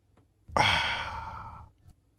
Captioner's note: Teddy gasps